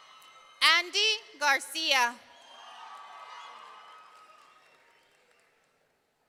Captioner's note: audience cheering; audience cheering